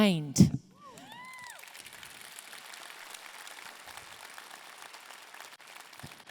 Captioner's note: audience clapping and cheering